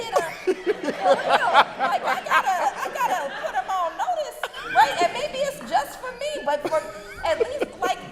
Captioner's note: brief laughter